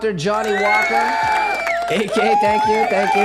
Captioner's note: cheering